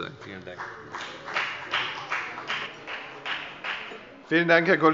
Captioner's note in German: Beifall bei der FDP